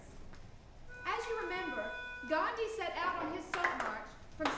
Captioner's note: rhythmic clapping